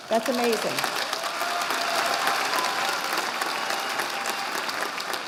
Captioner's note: audience applauding